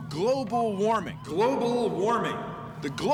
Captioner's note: echoing